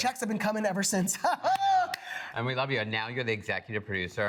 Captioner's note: laughs